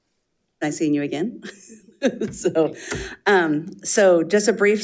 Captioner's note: chuckles